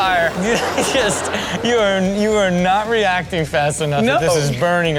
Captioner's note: laughs